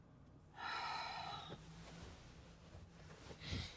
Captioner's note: Sara sighs